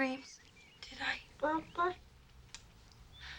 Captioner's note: baby gibberish